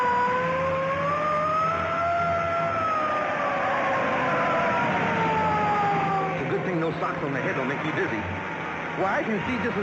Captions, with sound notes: (tires squealing) It's a good thing those socks on the head don't make me dizzy. Why, I can see just as good as...